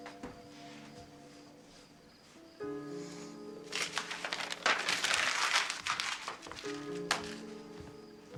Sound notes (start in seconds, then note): 3.6 paper rustles